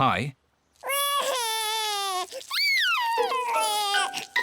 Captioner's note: crying